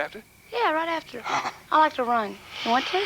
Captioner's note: chuckles